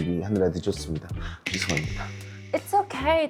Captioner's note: gentlemanly sound effect